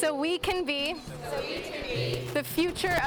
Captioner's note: crowd